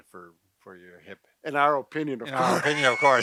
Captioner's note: laughs